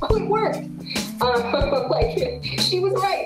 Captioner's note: laughs